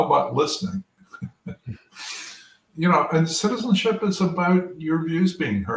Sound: laugh

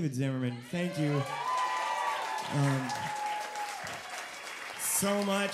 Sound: audience cheering

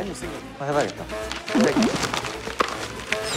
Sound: nom nom

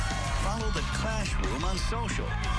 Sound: cheers and applause

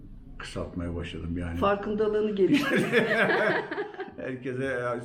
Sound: laughter

